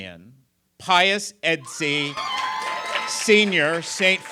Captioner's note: cheers and applause